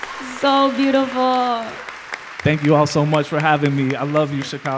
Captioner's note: applause